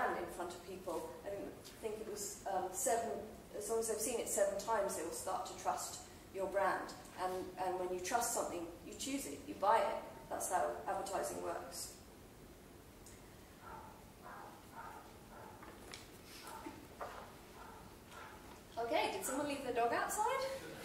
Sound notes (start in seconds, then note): 14.2 dog yapping outside